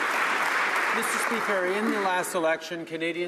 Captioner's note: some Applause